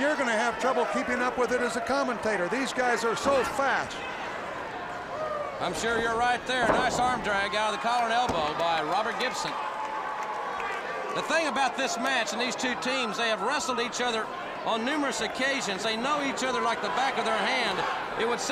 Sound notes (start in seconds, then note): 9.5 crowd cheering